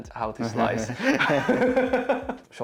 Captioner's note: laughter